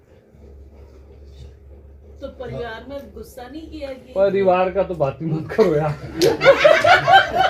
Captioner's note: chuckle